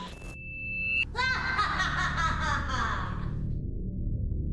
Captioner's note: evil laughter